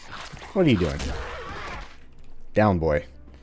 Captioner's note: whack